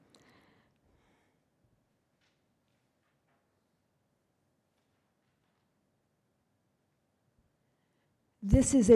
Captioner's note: pause in speech